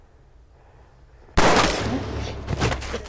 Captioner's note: gunshot